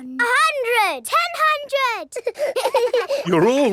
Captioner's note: children laughing